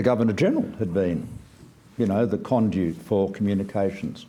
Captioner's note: none